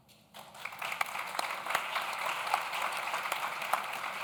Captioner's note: audience claps